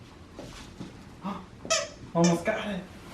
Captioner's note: Harlow squeaking her toy